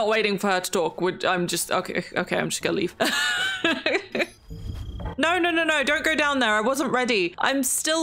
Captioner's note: laughs